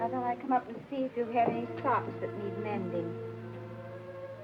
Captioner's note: none